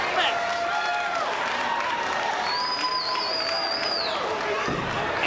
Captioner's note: audience cheering